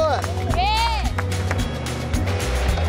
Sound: cheering

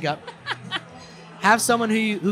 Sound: laughing

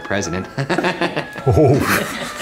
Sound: laughs

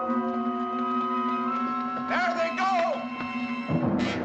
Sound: running Footsteps

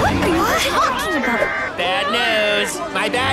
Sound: exclaiming in disbelief; alarm blaring

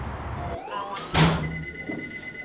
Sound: phone rings

